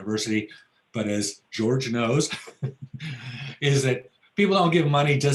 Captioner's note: laughs